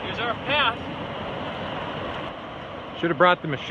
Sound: water rushing

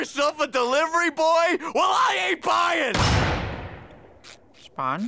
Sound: door slamming

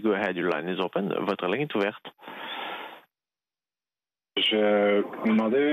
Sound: speaking French

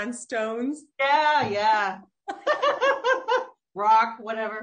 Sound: laughs

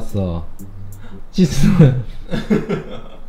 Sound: laughter

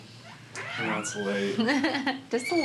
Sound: laughs

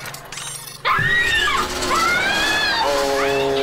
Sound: screaming

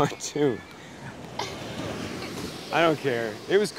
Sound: laughing

